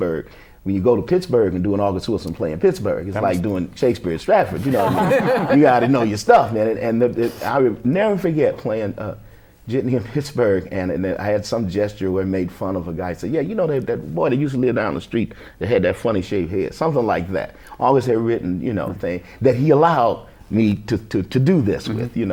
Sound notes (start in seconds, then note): 4.6 laughter